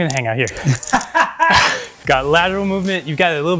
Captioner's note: laughs